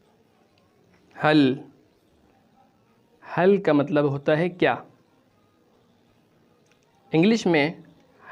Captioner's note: urdu